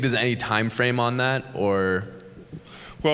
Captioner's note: chuckle